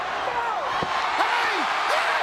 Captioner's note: audience cheers